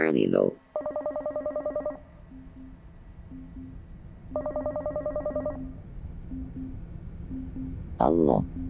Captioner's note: phone ringing